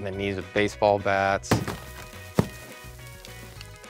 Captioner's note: thudding